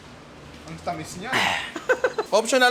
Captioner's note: laughs